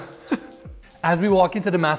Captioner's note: laughs